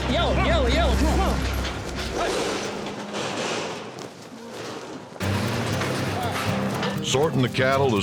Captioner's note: hoof beats, gate clanking